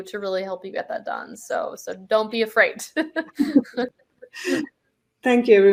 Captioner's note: laughs